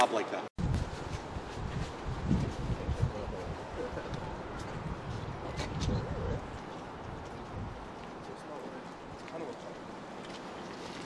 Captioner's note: wind noise